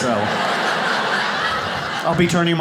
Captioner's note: audience laughs